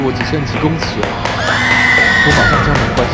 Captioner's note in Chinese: 女性尖叫聲